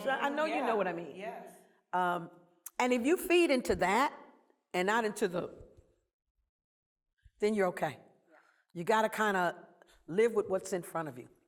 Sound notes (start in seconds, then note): 5.6 silence